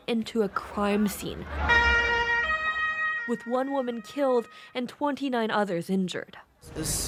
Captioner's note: sirens